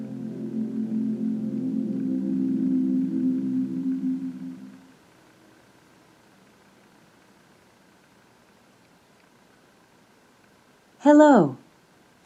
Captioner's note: echo